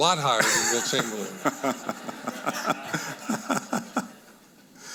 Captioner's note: audience laughing